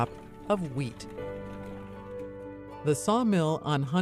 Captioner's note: water flowing